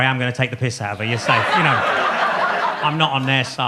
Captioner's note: audience laughs